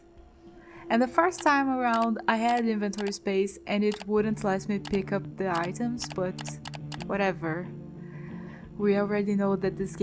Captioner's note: mouse clicking